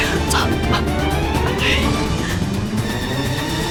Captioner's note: sigh